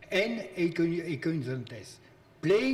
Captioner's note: speaking in foreign language